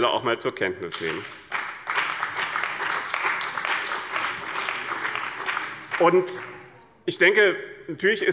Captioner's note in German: Beifall bei dem BÜNDNIS 90/DIE GRÜNEN und der CDU